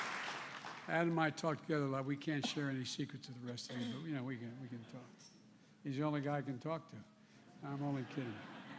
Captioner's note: applause